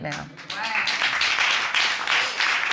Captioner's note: audience applauding